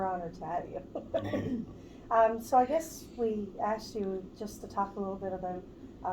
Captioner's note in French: rires